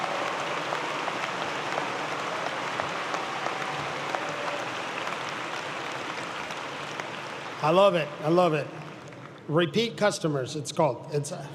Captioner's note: applause